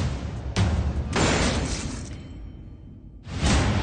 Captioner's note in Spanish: Disparo